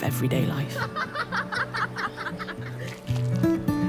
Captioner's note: laughing